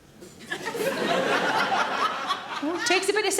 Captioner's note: audience laughing